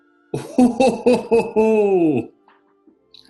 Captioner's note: chortling